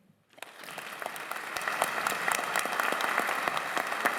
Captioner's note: applause